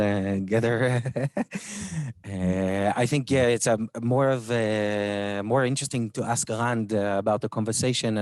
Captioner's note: laughs